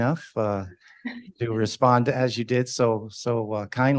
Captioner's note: laughing